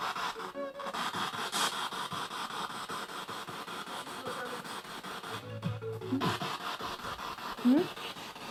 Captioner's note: noise of the spiritbox in the background